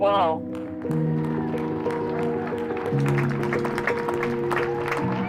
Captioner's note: citizens clapping and cheering